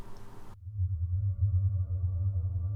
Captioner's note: hummmm